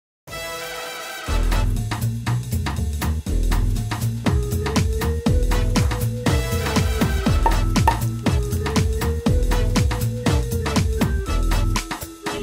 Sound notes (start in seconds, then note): 0.4 upbeat, jazzy music; 7.4 corks popping